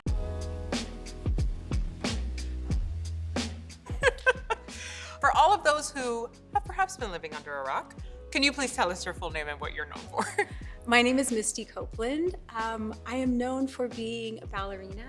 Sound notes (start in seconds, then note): 0.0 upbeat music; 3.9 laughs loudly